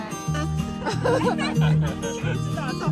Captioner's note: laughs